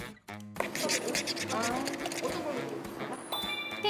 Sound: passionately scratching

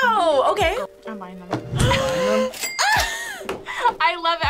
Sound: laughs

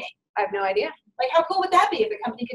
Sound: voiceover

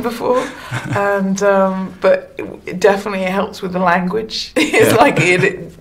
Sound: laughingly; laughs; laughs; laughingly

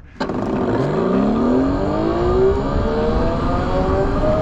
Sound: bike motor revving

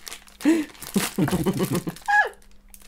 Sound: excited Giggles

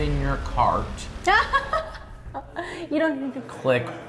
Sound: laughing

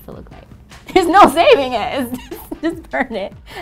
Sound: laughs

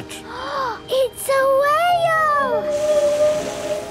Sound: gasps; whale calling

